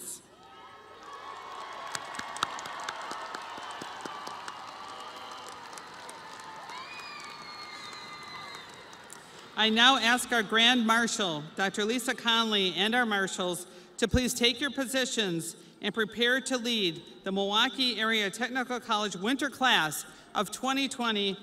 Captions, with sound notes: and as lifelong learners, congratulations. (crowd cheering) (audience applauding) I now ask our Grand Marshall, Dr. Lisa Conley and our marshalls to please take your positions and prepare to lead